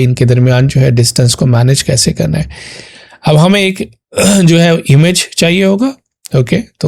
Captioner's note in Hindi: गला साफ़ करने की आवाज़